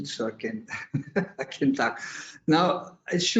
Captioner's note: laughing